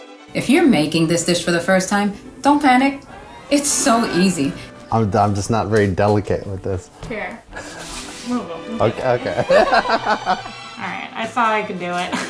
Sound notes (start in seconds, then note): 8.8 both laughing